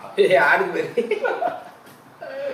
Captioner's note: WAH ZHAI giggles